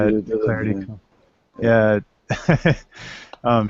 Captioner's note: laughter